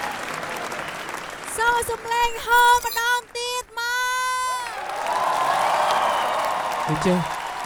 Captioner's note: cheering